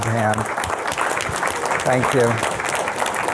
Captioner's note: audience applauding